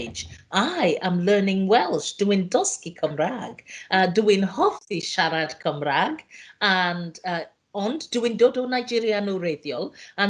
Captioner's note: speaks in Welsh